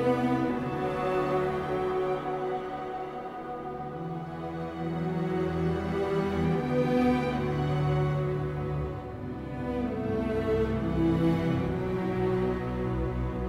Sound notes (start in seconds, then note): none